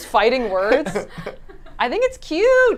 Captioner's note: group laughs